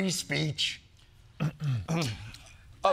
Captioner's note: clearing throat